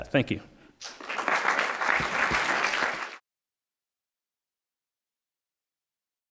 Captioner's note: applause